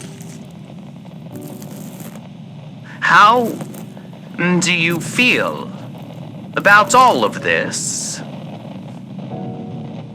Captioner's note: cutting slower fx